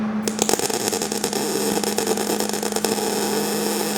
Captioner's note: buzzing